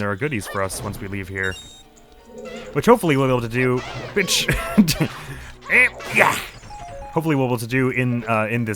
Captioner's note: snickers